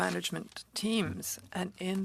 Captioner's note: speaking French